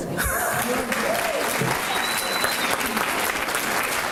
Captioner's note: applause